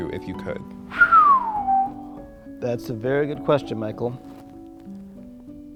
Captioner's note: whistles